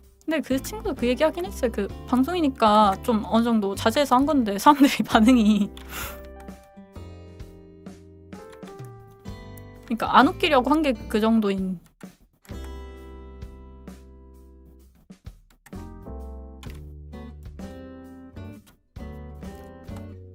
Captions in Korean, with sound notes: 근데 그 친구도 그 얘기 하긴 했어요. 그 방송이니까 좀 어느 정도 자제해서 한 건데 사람들이 반응이 [웃음] 그러니까 안 웃기려고 한게 그 정도인